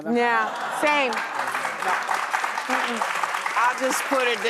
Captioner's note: audience applauds